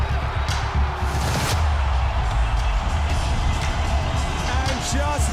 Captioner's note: crowd roaring